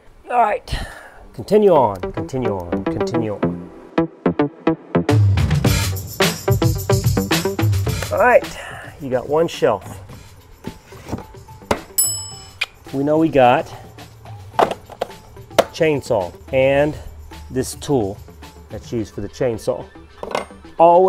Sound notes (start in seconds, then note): 4.5 upbeat pop music; 11.9 bell ringing